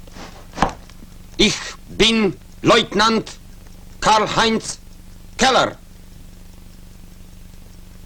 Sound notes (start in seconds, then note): 5.1 in German